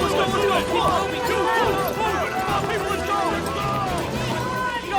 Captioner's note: confused hubbub